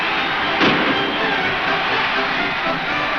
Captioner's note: gunshot; crowd cheering